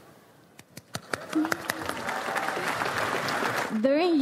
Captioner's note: audience applauds